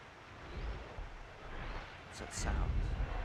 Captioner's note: pounding sound